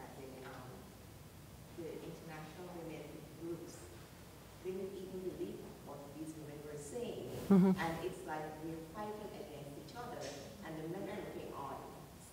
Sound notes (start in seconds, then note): 4.8 speaks quietly without mic